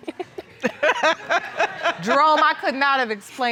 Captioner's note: laughs